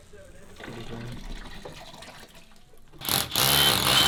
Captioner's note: water draining; electric drilling